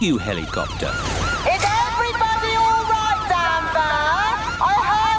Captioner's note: over megaphone